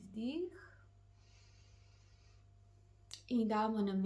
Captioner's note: deep inhale and exhale